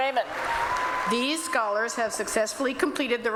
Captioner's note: applause